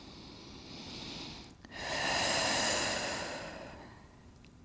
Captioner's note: deeply breathing